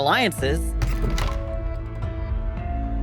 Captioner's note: door opens